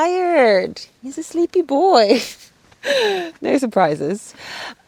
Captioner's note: chuckles